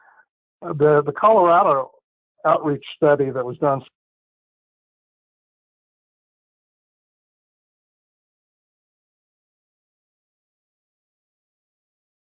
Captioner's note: audio cuts off